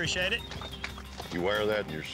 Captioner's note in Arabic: تصفيق